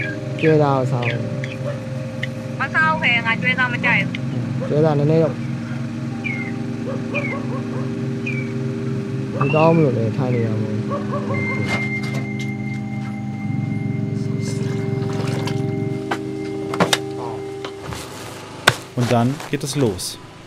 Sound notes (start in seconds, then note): 0.3 they talk in their language; 6.7 distant dog barking, rigid sounds